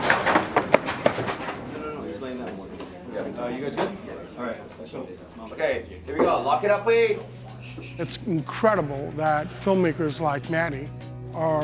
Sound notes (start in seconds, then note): 2.1 congregation murmuring